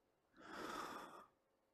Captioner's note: sigh